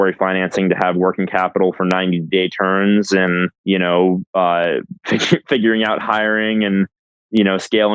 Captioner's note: laughs